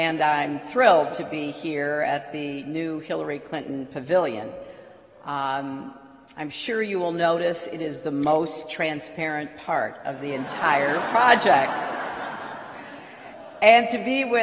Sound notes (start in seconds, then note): 12.7 laughter